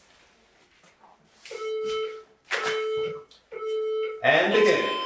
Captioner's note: beeping